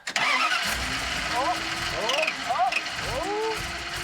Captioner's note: engine revving